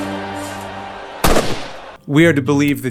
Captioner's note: gunshot noise